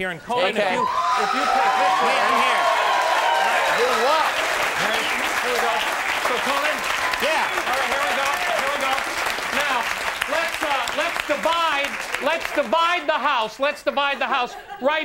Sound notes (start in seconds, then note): 2.6 audience cheering